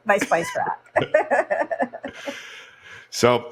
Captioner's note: laughs